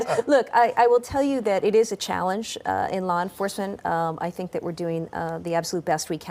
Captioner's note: laughter